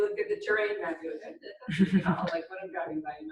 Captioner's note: laughing